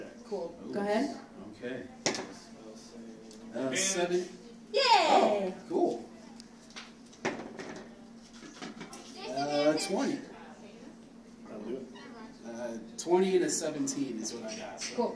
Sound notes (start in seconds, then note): none